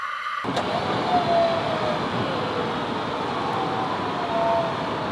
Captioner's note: machine operating